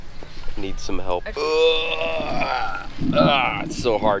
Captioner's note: grunting